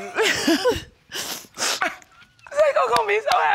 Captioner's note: crying in excitement; sniffs